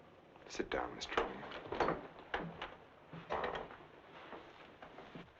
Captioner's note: footsteps thumping